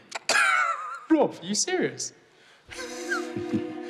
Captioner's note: scoffs